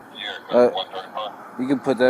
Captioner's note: radio chatter